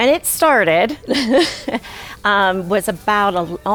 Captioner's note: laughs